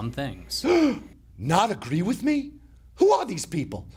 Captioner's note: gasping